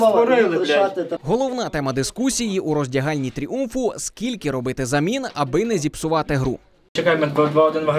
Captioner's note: voiceover